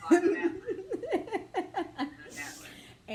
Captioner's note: laughs